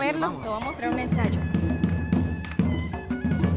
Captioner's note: spanish response; instrumental music